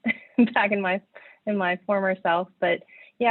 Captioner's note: laughs